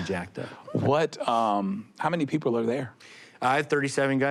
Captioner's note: chuckles